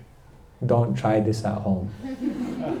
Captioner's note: laughter